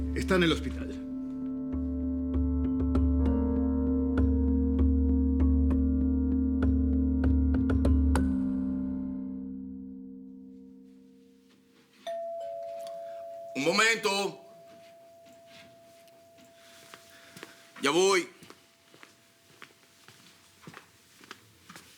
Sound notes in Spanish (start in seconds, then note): 12.0 Timbre de la puerta